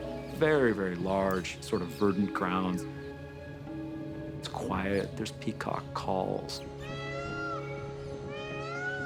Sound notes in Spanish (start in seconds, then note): 2.7 llamada de pavo real